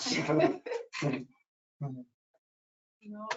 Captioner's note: people chuckle